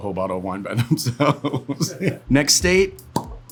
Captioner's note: laughs